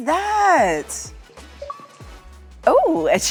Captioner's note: pop